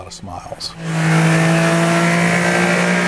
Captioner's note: car Engine Roars